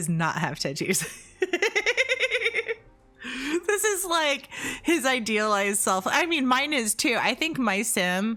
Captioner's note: hehehehehehe